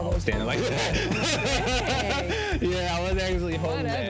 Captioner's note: laughs